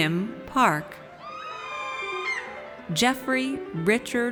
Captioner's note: audience cheers